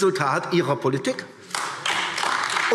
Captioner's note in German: Beifall AfD